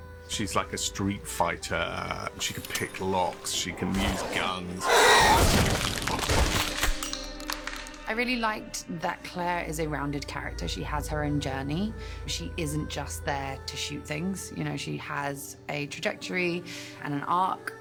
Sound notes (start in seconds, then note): 4.7 shrieks; 5.2 gunfire; 6.5 cocks gun; 6.6 casing clatters